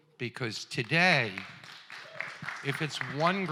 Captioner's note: applause